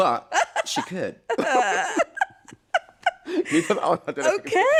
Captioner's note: laughter